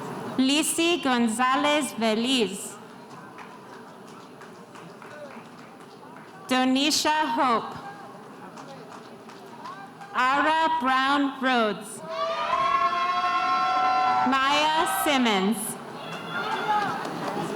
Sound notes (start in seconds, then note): 12.0 spectators cheering